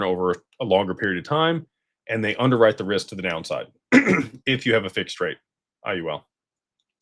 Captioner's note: clears throat